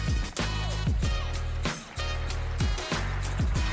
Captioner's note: upbeat music; applause